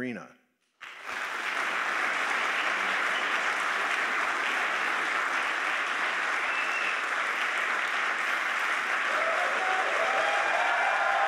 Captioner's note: applause